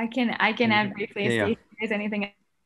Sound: audio distorting

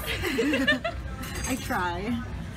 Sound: laughter

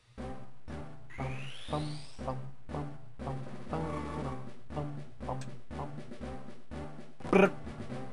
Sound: humming to evolution music

